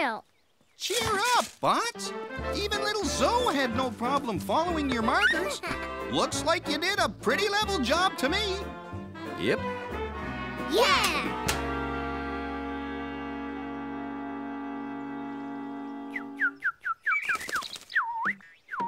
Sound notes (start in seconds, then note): 10.5 bird call